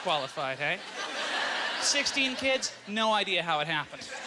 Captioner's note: audience laughter